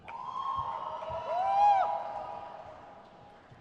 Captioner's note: crowd cheers